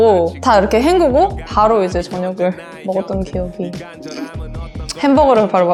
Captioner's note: laugh